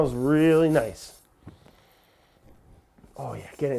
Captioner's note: spices lightly scratching; deeply inhales